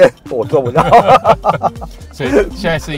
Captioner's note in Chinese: 哈哈哈